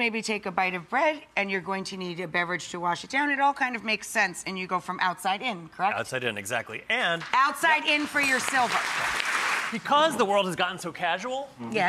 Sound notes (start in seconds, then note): 7.9 clapping